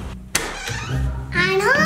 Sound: door creaks

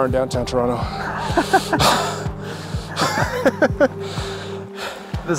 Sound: laughing

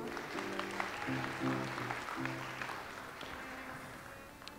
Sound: audience applauds

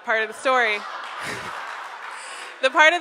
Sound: audience laughs

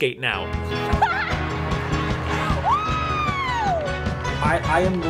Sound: audience applauding

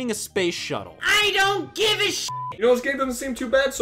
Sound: beep

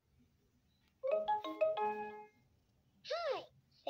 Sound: LeapFrog startup sound plays

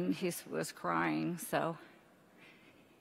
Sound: exhales sharply

